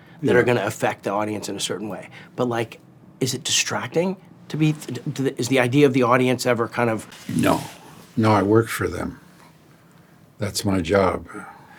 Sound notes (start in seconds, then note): none